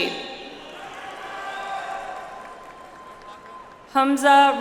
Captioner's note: audience applauds